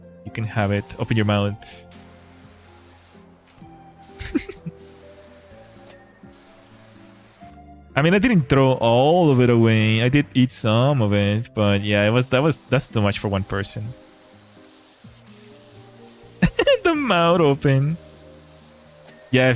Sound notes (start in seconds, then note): 4.2 laughter